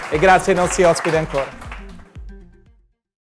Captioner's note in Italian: Applauso